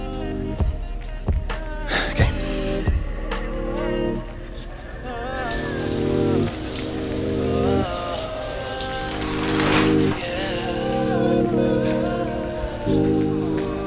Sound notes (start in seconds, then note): 1.9 sighs; 5.3 water running